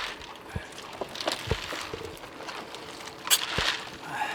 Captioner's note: water gurgling